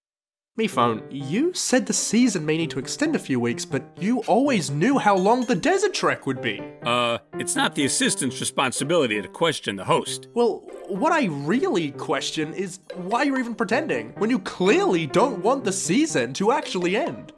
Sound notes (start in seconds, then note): none